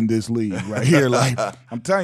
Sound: laughing

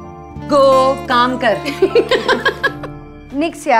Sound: Vandy giggles

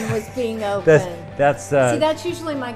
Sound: laughs

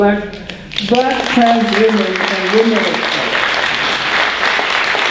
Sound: applause

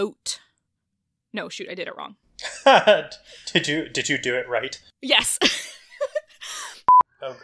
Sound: laughs

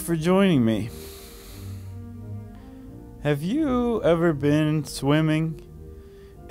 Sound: sighs

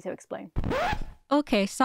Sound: record scratch

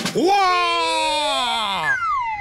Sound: exclaims

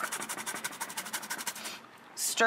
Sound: grating

